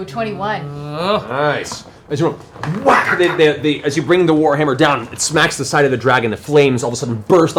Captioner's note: whack